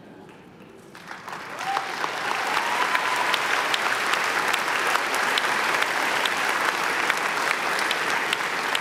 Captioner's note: applause